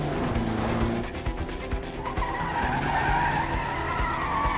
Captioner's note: tires screeching